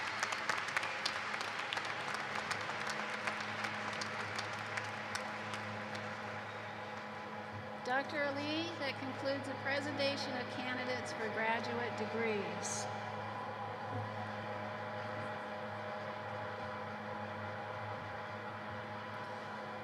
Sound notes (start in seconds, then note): 6.6 cheers and applause